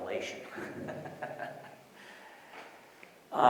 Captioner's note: laughs